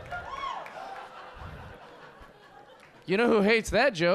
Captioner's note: audience laughing